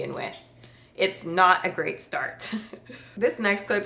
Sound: laughs

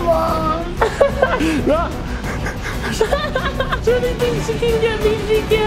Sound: laughs

